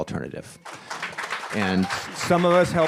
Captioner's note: audience applauding